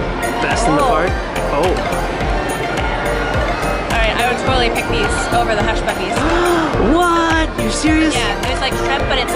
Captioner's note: gasps* Whaaaat?!? You're serious?